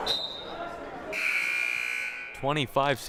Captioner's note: buzzer blaring; whistle blaring